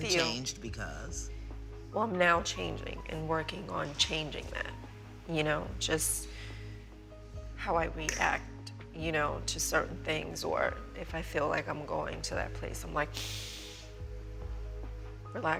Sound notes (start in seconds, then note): 13.2 breathes deeply